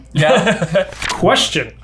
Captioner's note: laughs